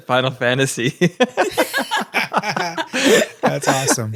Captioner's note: laughter